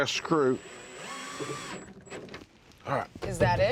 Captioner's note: drilling